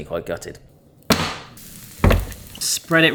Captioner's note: tray clatters